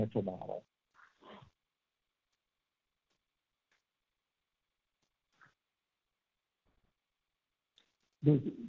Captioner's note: awkward pause